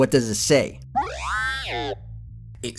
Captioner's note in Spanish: sonidos robóticos